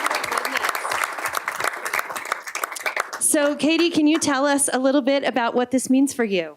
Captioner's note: applause